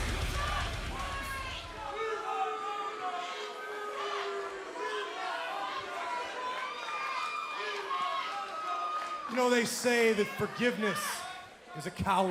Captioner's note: crowd chatter